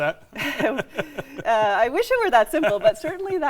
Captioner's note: chuckles